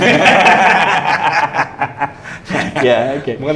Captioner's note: laughing